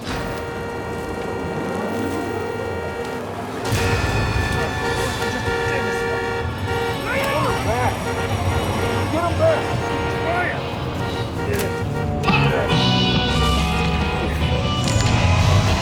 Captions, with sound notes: (car horn honking continues) (intense music) (Tector shouts) - Get him back! - I'm tryin'! (energetic music)